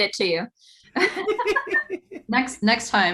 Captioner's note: laughing